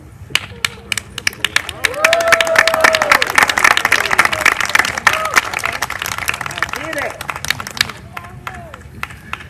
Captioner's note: applause